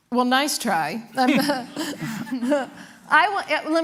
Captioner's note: laughter